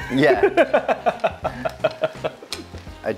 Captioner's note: laughs